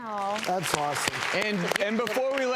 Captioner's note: audience applause